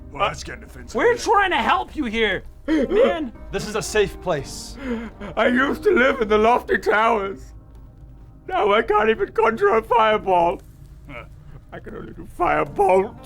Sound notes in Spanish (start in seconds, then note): 2.6 Llorando